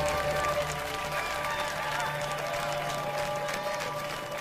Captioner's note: cheers, whistles, & applause